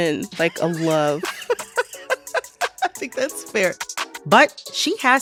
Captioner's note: laughter